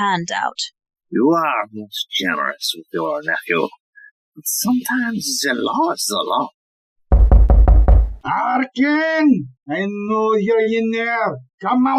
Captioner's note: A knock at the door